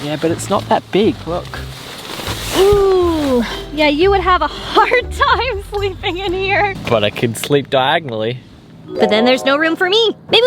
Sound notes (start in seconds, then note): 3.4 laughing